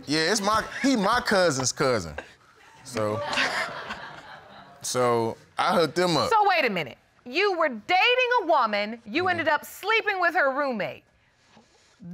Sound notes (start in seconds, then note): 2.7 laughing